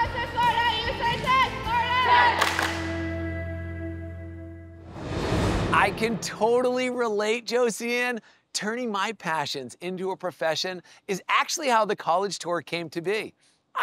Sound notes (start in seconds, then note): 1.7 players shouting indistinctly